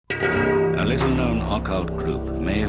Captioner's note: voiceover